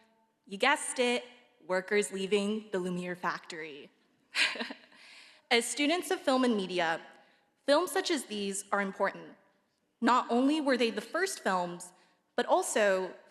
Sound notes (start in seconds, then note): 4.3 laughs